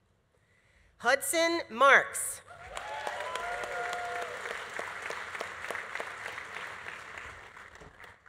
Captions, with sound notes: Hudson Marks. (audience applauding) (audience cheering)